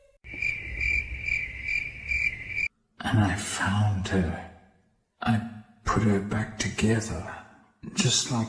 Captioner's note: crickets